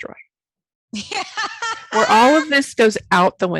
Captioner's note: laughing